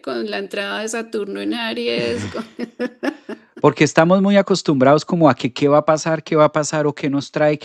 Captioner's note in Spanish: risas